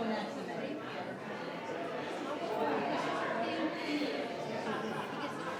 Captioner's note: people chattering